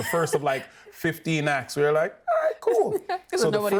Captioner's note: laughing